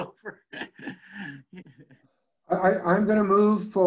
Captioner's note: laughs